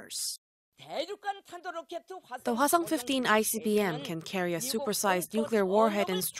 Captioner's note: Korean